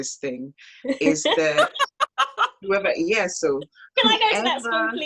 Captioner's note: laugh; laughs